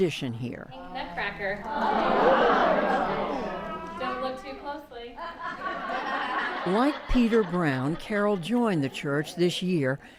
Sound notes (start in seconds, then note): 5.1 laughter